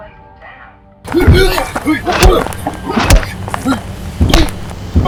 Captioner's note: Larry and Henri grunt